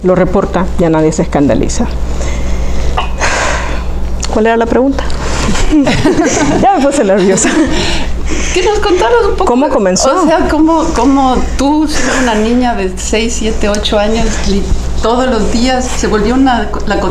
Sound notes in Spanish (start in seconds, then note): 5.4 Se ríe